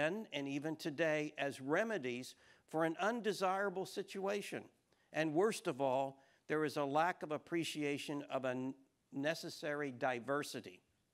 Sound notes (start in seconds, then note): none